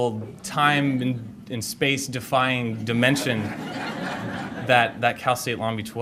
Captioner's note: audience laughter